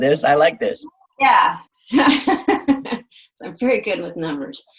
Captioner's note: laughs